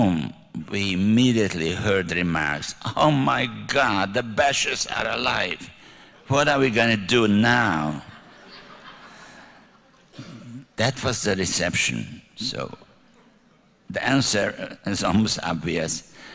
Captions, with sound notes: home, we immediately heard remarks. Oh my God, the Basch's are alive. What are we going to do now? [LAUGHTER] That was the reception. The answer is almost obvious. I left shortly. However,